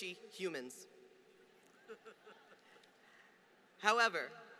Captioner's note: laughter